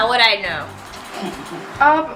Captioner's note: laughing in the background